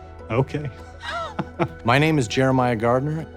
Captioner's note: laughter